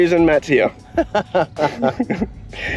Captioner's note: laughs